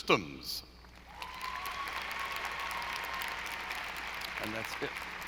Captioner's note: audience applauding